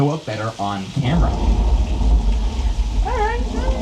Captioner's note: wind whooshes